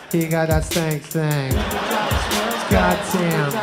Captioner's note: crowd laughs